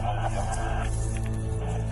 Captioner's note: police radio chatter